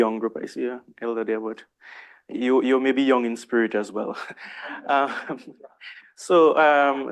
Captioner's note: chuckles